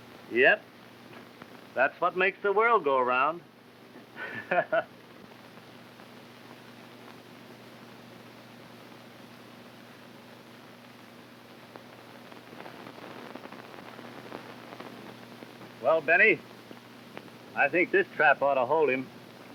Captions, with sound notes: - Yep, that's what makes the world go round. (Jack chuckles) Well, Benny, I think this trap oughta hold him.